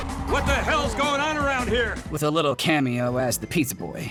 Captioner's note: record scratching